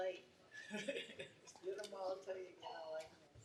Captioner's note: laughter